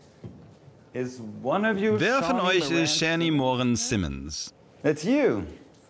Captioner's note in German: englisch